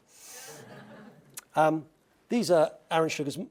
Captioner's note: laugh